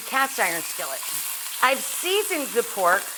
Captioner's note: meat sizzles in hot pan